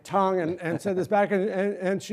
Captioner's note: laughter